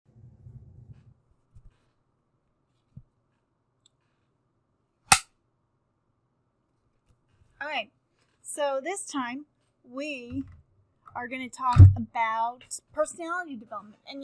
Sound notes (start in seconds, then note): 5.1 board snaps